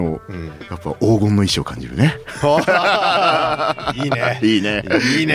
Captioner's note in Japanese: 笑い